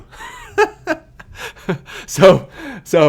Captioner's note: laughing